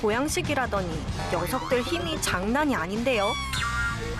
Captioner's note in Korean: 낑낑